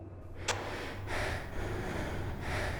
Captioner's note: heavy panting